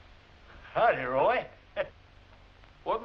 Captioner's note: chuckles